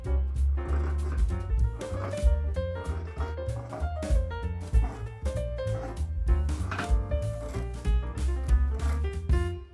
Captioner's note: scissors cutting sounds